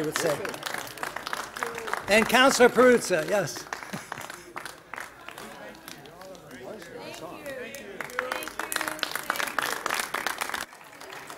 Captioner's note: applause